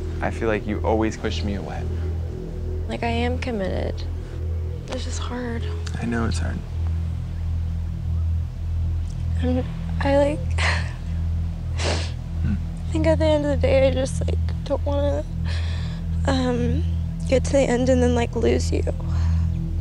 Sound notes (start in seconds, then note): 7.0 tense music; 11.8 sniffles